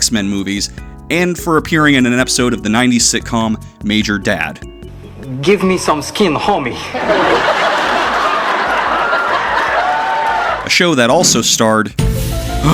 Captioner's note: gasp!